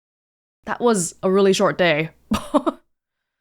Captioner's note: chuckles